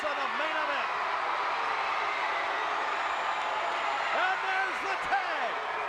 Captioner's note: crowd cheers